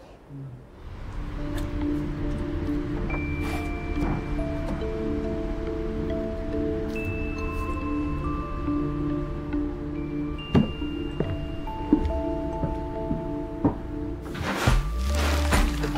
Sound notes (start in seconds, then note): 2.9 mysterious music; 11.2 footsteps